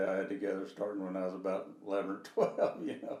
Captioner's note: laughing